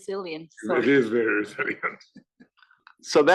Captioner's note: laugh